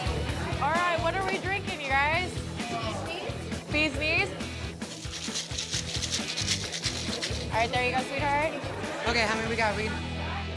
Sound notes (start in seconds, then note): 4.8 ice cubes shaking